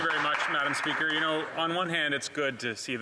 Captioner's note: some Applause